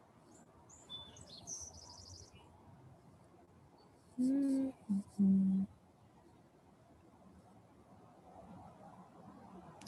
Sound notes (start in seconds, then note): 4.2 hums